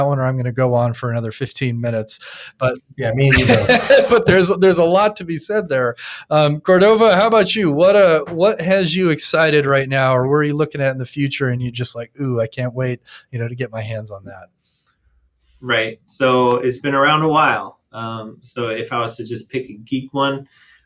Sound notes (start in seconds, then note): 3.2 laughing